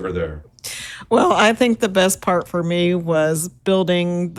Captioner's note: chuckles